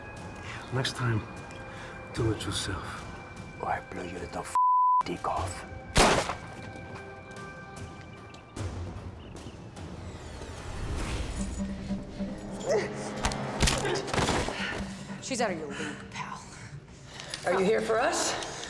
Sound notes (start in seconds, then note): 5.9 gunshot; 12.4 gasps; 13.2 bone cracks